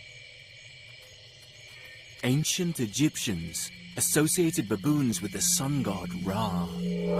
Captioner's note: birds chirping; eerie music